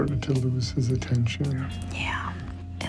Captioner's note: whispers